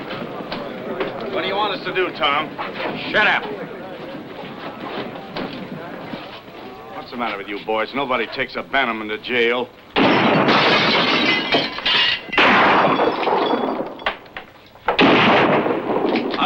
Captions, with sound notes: - What do you want us to do, Tom? - Shut up. - What's the matter with you boys? Nobody takes a Bannerman to jail. (gun firing) (glass shattering)